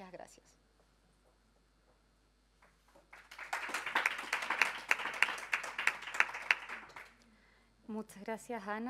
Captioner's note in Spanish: Aplausos